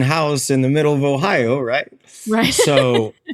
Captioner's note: chuckles